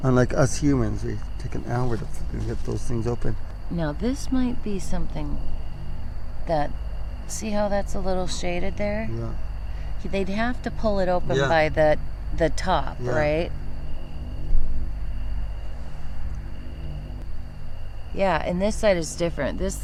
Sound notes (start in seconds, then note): 14.3 crickets chirping